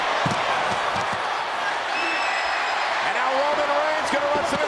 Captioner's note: crowd cheering